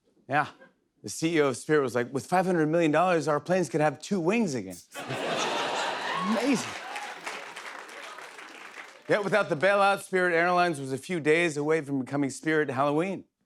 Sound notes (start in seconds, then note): 4.9 laughter; 4.9 applause